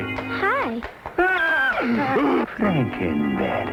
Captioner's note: screams